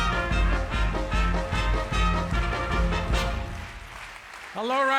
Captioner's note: audience claps along